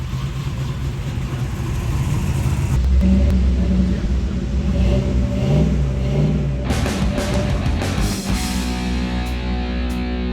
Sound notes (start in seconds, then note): 3.4 engines revving